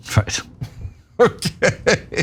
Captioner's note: laugh